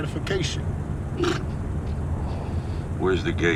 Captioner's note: Dwight scoffs